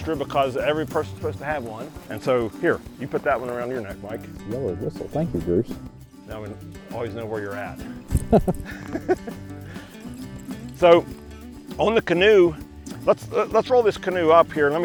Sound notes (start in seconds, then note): 9.8 laughs